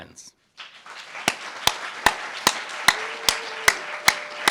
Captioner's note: applauds